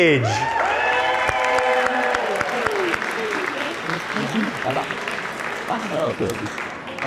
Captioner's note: cheers and Applause